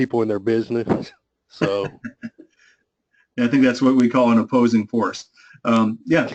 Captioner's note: laugh